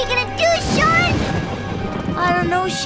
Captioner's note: thunder cracking